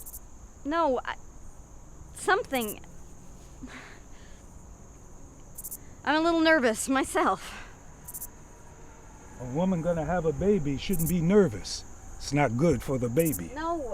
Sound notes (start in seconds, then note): 3.6 sighs